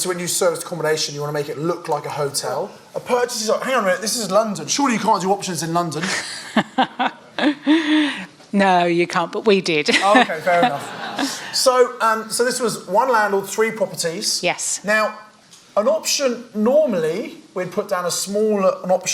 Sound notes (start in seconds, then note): 6.9 laughs